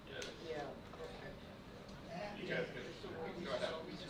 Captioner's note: murmurs